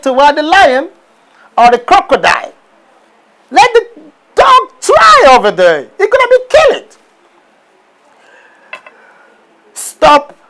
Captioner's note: laughing